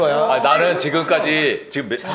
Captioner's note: haha